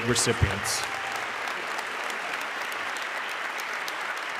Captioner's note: audience clapping